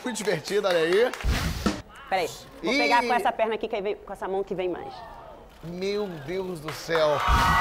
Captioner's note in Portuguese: aplausos